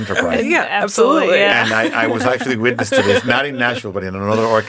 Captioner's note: laughing